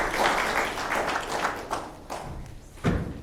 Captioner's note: applause